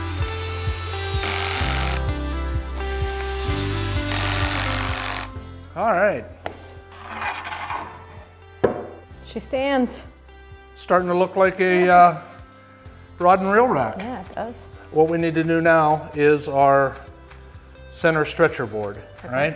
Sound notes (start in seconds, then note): 6.4 wood scraping